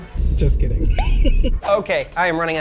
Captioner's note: chuckles